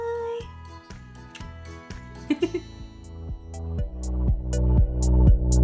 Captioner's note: laughs; upbeat music